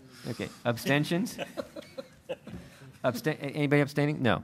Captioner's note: laughter